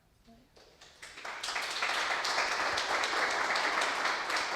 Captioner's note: audience applauding